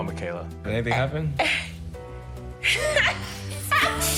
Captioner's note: laughs